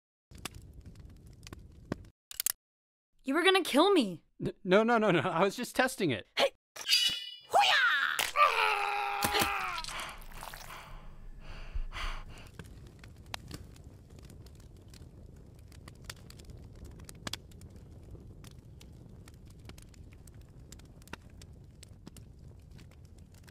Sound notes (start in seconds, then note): 2.3 gun clicks; 6.3 woman grunts; 6.9 knife unsheathing; 7.5 kung-fu yell, stabs; 7.5 man screams; 7.6 stabbing, Woman grunts; 8.9 blood squelching; 9.8 heavy breathing